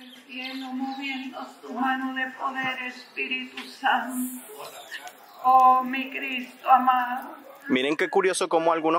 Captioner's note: people praying and praying